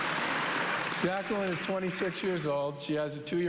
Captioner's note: cheers and applause